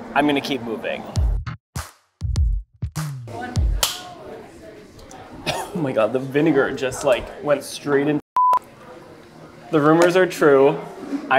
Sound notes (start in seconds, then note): 2.2 upbeat music; 3.2 people chattering; 3.9 clapperboard clapping; 8.5 screen blaring